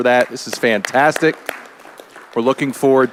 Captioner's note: all applauding